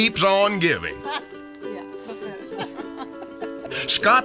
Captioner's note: laughter